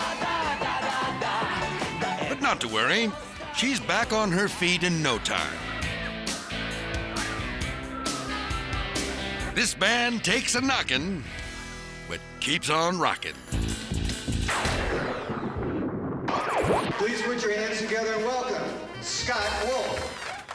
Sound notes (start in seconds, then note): 0.1 singer singing in foreign language; 6.1 upbeat music; 14.4 lightning cracks; 19.0 audience applauds